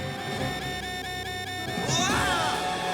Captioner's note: radar alarm beeps